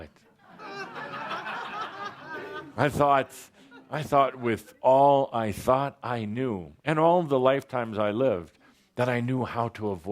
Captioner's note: much laughter